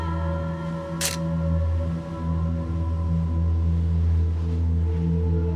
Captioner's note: camera snapping